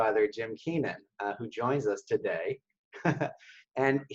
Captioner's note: laughs